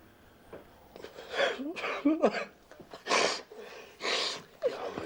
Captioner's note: sollozando